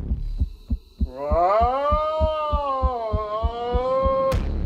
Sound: yelling

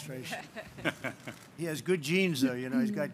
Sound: laughter

